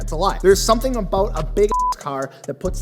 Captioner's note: beep